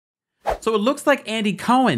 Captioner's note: air whooshing